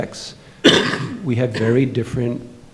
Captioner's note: coughing